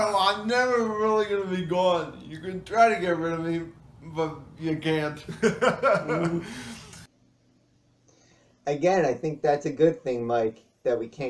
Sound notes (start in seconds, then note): 5.2 laughs